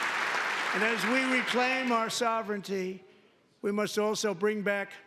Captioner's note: applause